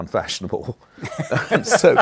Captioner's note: laughter